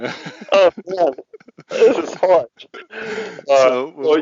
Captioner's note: laughs